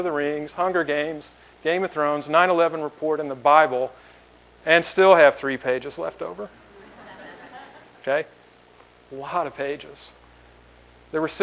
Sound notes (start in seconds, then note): 6.7 laughter